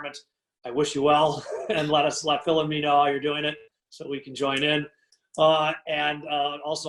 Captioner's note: laugh